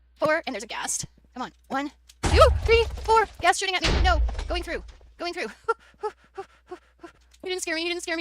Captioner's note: gasps